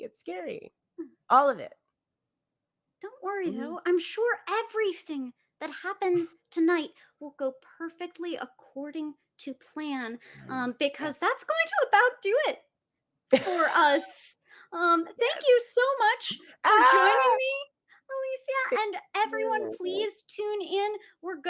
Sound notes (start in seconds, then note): 13.4 laughing